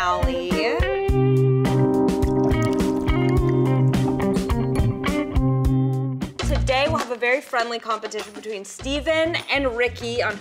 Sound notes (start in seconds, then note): 0.1 jazz music; 2.2 drink pouring